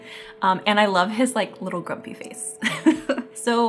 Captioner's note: laughs